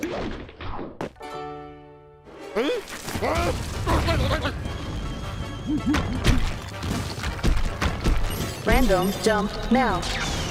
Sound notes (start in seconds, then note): 2.8 confused grumbles; 6.2 crumbling; 8.6 robot voice